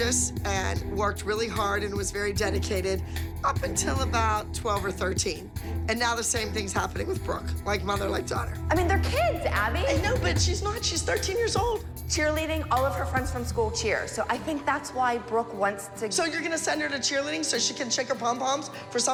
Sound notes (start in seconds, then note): none